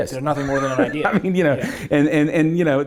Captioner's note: laughs